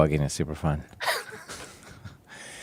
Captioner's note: laughs